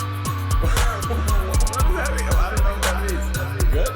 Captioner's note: both laughing